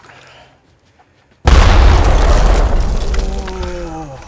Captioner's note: explosion booming